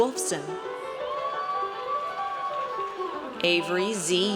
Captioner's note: audience cheers